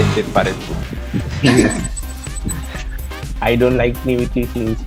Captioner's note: laughs